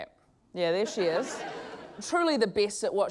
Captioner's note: laughter